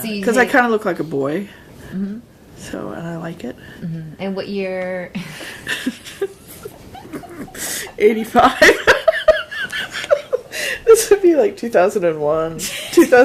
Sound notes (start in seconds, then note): 5.4 both laughing